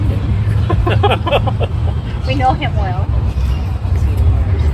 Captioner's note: laughter